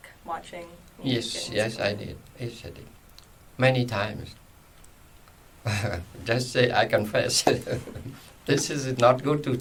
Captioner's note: laughs